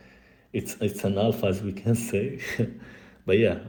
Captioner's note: risitas